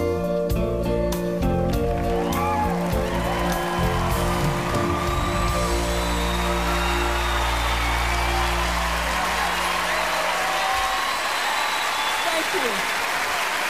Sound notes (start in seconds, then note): 1.5 cheers and applause